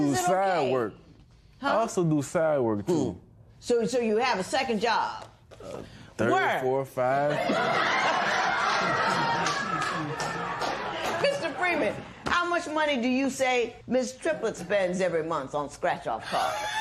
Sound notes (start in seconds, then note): 7.3 laughter